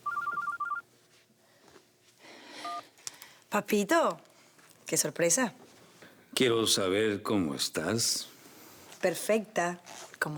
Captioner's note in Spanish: Suena el celular